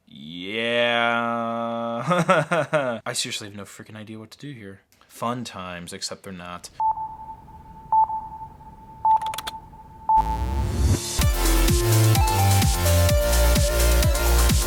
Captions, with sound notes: Yeah. (laughs) I seriously have no freakin' idea what to do here. Fun times, except they're not. (electronic beeping) (keyboard typing) (energetic electronic music)